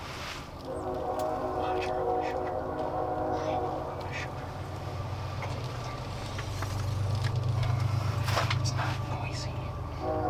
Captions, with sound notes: (train horn) - It's not noisy.